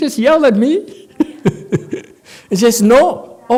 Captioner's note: laughs